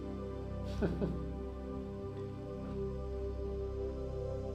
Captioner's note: laughs